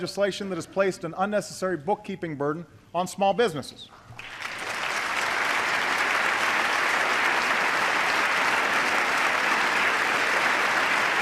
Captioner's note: applause